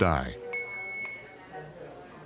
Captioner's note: monitor beeping